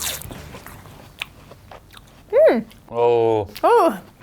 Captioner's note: munching loudly; chewing loudly